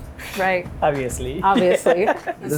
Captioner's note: laughs